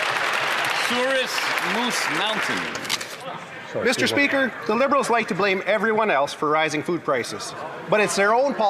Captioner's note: some Applause